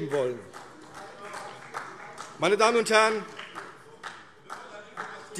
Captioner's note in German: Vereinzelter Beifall